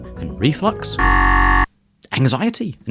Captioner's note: buzzer blares